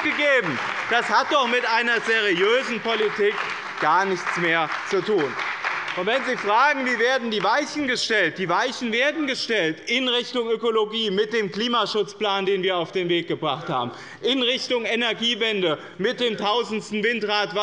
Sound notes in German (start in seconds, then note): 4.9 Lebhafter Beifall bei dem BÜNDNIS 90/DIE GRÜNEN und der CDU